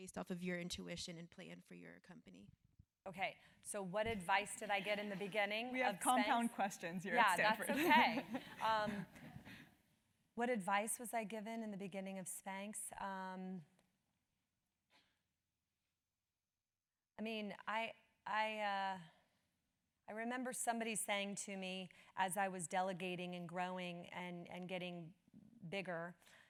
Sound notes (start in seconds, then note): 4.4 laugh